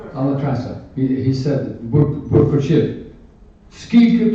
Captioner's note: speaking ukrainian